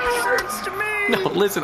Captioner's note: cheers, the crowd cheers too